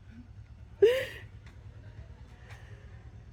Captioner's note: laughing